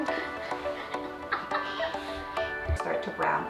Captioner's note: laughing